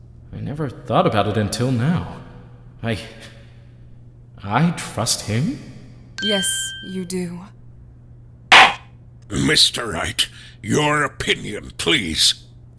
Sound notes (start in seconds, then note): 8.5 gavel slams!